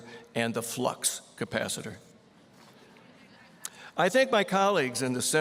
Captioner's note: audience chuckling